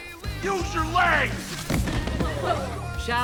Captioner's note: Lawrence thuds